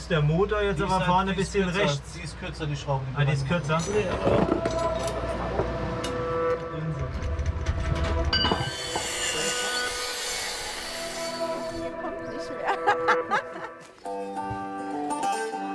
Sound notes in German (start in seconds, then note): 6.7 Rattern, Klimpern; 8.8 Schleifgeräusche; 11.8 Lachen